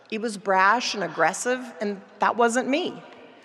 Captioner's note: none